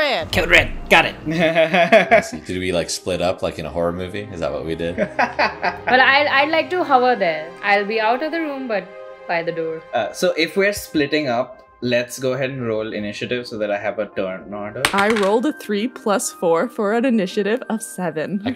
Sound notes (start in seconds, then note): 1.3 laughter; 5.4 laughter